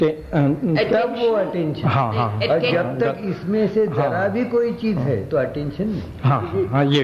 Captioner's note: discussion In Hindi